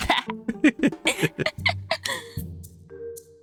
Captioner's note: laughing